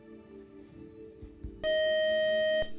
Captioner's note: time up buzzer